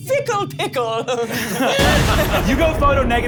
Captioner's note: laughs